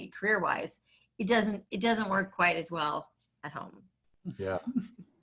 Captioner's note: laughs